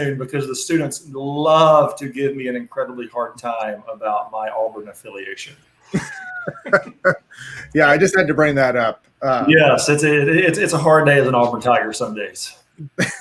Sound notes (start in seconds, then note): 5.8 laughing